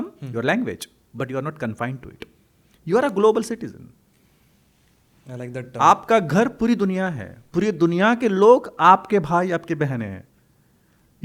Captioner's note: hindi